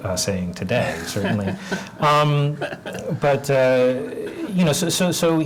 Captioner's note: laugh